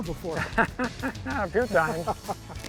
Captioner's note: laughing